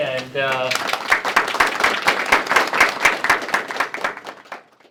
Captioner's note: applause